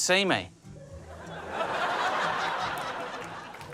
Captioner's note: audience laughs